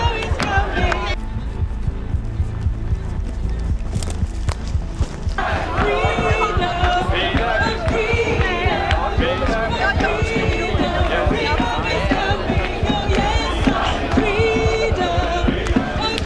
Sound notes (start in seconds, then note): 1.8 footsteps running; 1.8 the music builds to a climax